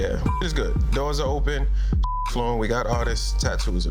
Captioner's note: beeps